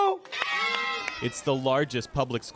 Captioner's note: cheering and applause